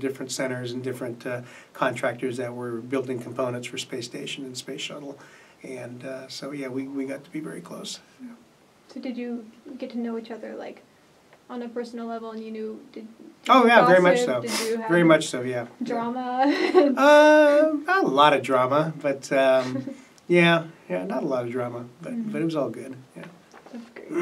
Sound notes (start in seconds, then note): 16.3 laughs; 19.3 laughs